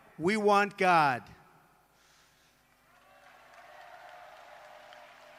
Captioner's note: applause